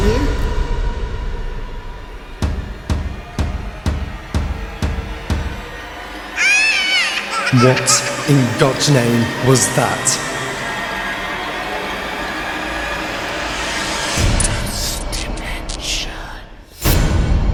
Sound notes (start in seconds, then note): 2.6 suspenseful music continues; 6.3 baby crying; 14.7 ghostly Voice